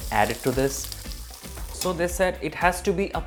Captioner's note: sizzle sound